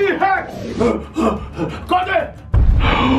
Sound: gasps

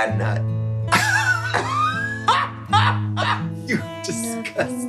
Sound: both laughs

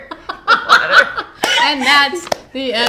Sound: group laughing

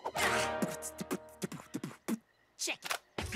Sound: beat boxing

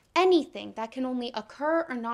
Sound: none

